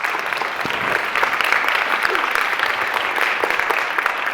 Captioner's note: applauding